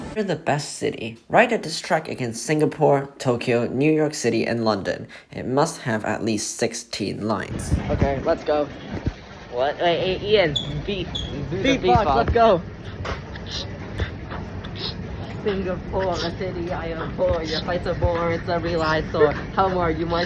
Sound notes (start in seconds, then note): 12.7 beatboxing